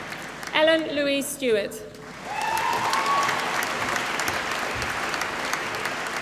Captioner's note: applause